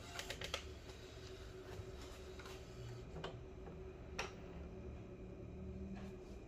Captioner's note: printer machine sound; moving damper sound